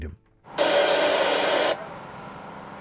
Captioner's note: radio static